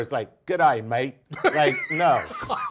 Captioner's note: laughs